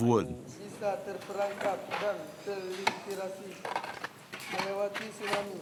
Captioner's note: speaking in foreign language